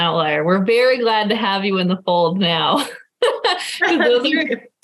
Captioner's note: laughing